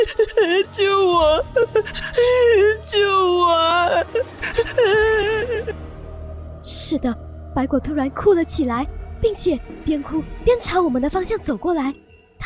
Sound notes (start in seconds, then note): 4.4 crying loudly